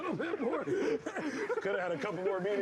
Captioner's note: laughing